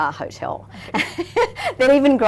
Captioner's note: laughing